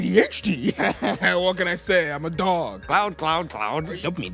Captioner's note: laughs